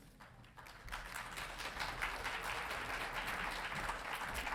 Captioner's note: audience applauding